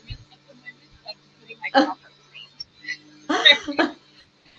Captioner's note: laughs